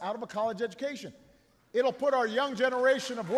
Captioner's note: applause